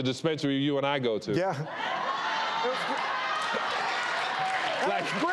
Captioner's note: crowd laughing